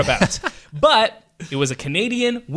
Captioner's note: laughs